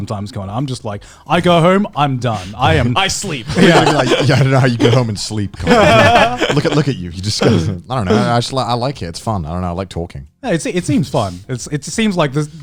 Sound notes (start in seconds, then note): 4.6 Joey and Garnt laughing